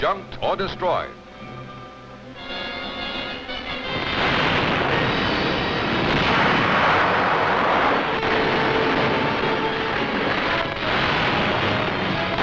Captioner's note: explosions